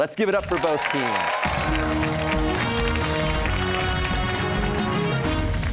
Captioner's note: cheers and applause